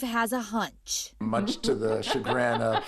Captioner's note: laughs